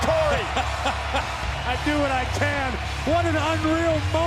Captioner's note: laugh